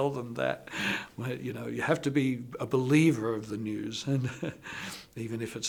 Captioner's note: laughs